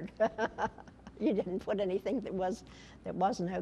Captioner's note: laughter